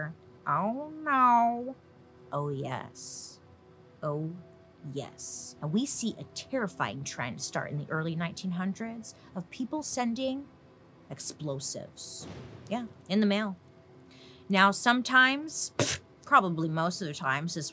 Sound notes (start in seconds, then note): 12.2 explosion booming